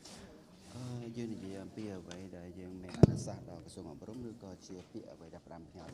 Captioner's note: speaking foreign language